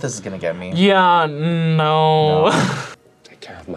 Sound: laughs

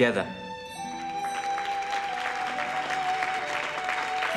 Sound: applauding

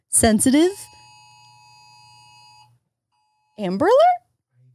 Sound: phone alerts

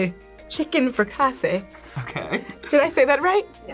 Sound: laughs

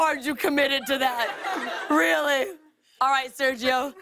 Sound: laughter

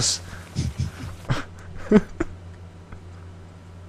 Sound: laughing

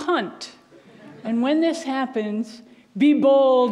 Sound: audience laughs

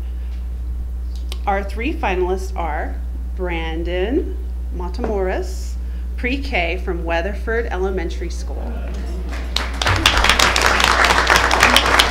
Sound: applause

